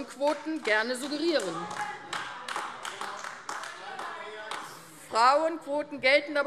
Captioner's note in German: Beifall AfD - Widerspruch BÜNDNIS 90/DIE GRÜNEN, SPD und DIE LINKE